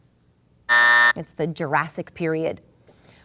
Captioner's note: buzz